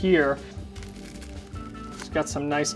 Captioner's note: bread crunching